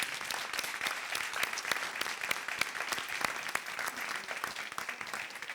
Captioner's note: applause